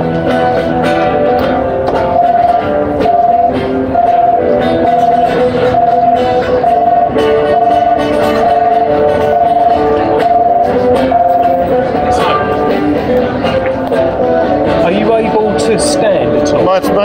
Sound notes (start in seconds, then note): 2.9 buzzing